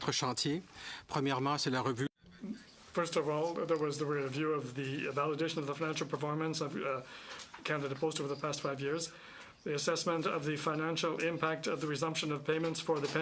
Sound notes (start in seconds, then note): 6.6 speaking French